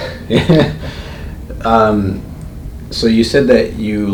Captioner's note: slight giggle